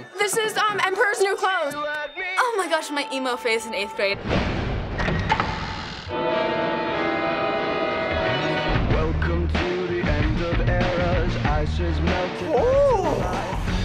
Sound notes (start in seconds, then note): 4.3 loud whoosh, door creaks open; 5.3 horror music